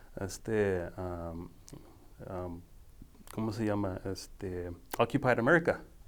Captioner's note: speaking foreign language